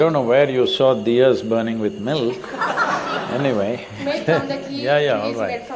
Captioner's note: laughter